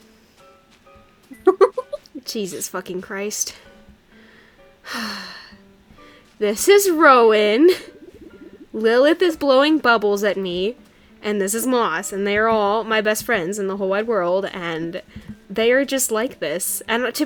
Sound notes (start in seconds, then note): 1.3 laughs; 4.8 sighs